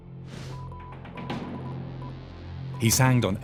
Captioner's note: radio beeps